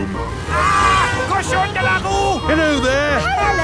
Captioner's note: yells